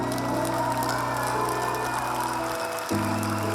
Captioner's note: cheering, applause